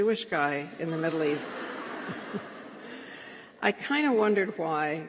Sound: laughter

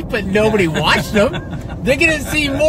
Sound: laughs

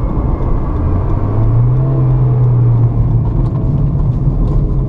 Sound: car revving

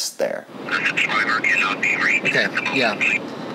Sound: radio chatter

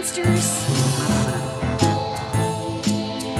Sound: monster chattering; door creaking; upbeat music

